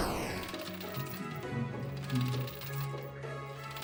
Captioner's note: humming along